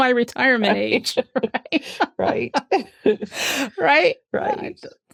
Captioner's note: laughter